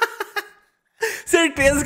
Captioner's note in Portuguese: Risos